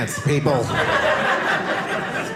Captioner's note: audience laughing